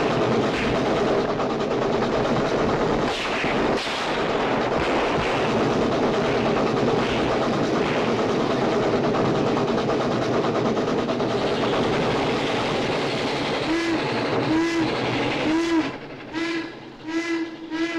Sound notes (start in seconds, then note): 14.4 train whistle blowing